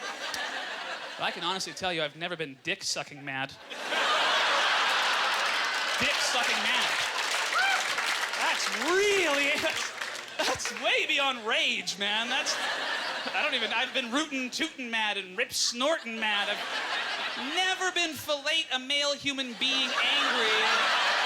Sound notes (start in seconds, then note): 5.3 audience laughter